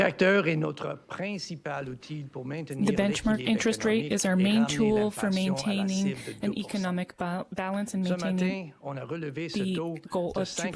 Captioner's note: speaking French